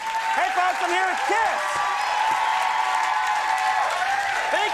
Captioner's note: crowd cheering